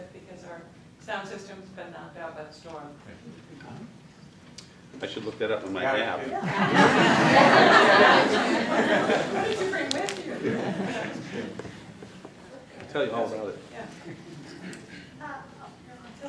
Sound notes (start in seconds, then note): 6.4 laughter